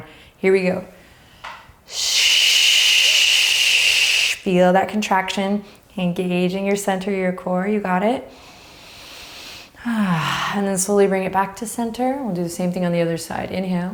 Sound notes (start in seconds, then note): 1.9 shushing; 8.3 deep breathing